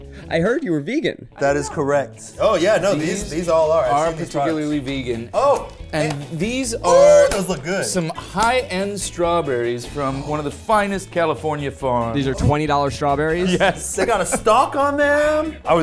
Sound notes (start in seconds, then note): 5.3 exclaiming